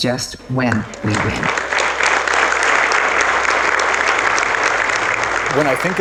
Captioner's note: applause